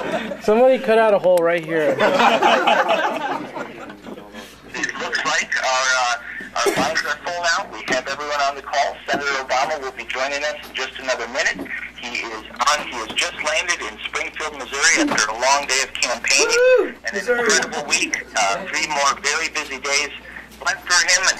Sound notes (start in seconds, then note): 1.9 laughing